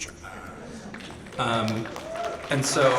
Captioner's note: audience applauds